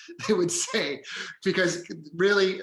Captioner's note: laughing